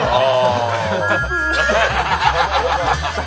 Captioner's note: horns